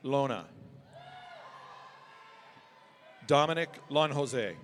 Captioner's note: audience cheering